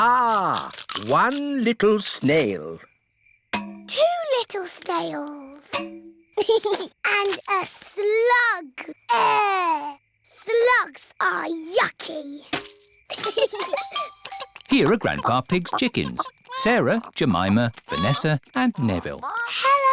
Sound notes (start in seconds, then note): 6.4 george giggles; 13.1 both giggle